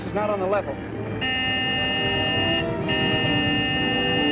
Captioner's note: honking